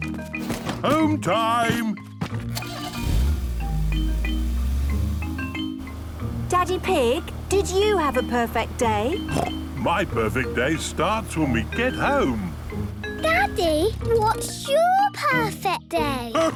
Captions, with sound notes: - Home time! - (engine starting) - Daddy Pig, did you have a perfect day? My perfect day starts when we get home. - Daddy? What's your perfect day?